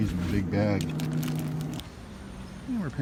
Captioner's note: package crinkles